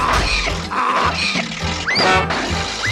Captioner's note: motor sputters